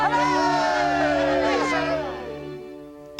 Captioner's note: crowd cheers